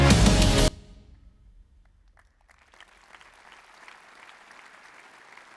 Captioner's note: applause